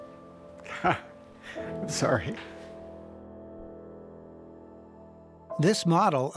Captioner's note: laughs